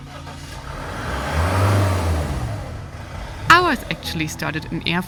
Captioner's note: vehicle engine whirring